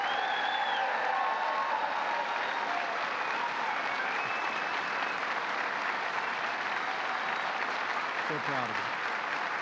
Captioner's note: applause